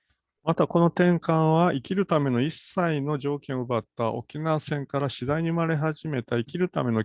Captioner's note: speaks in Japanese